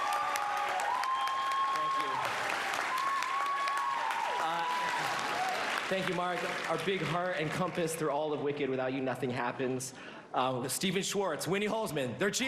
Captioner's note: applause